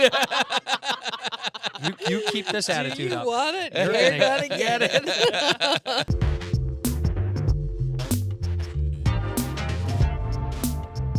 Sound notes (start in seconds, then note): 0.0 laughing; 6.1 upbeat outro music